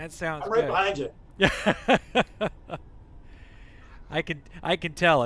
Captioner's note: laughter